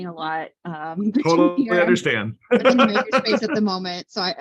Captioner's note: laughter